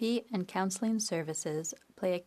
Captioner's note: speaking French